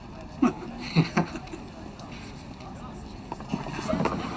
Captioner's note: laughs